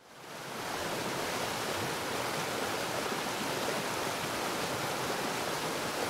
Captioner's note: waterfall splashing